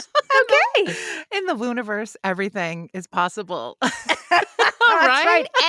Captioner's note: laughter